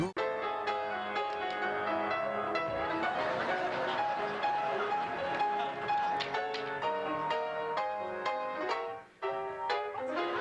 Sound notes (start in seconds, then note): 0.2 piano music playing; 2.7 audience laughter